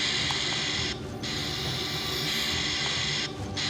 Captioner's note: whirring